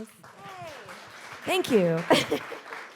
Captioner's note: chuckles; audience applauding